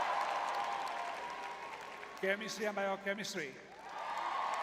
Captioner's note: crowd cheering